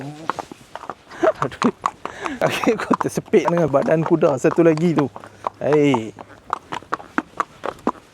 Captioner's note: laugh